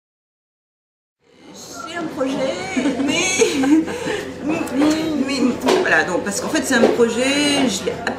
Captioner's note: laughs